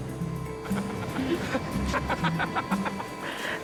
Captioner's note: laughs